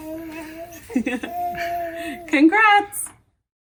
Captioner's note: chuckles